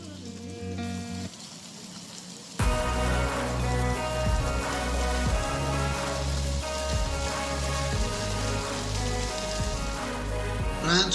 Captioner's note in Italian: Applauso